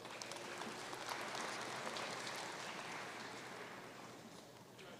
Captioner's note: audience cheering and applauding